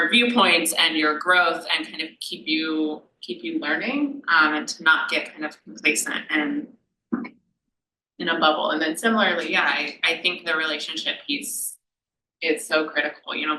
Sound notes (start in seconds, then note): none